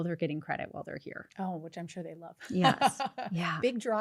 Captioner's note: laughs